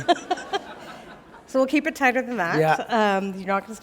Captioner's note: laughter